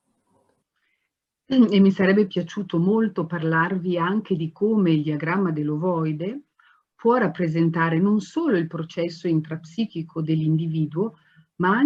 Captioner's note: speaks Italian